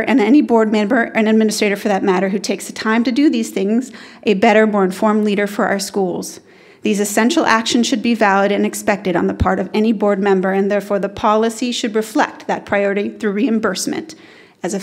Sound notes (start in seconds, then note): none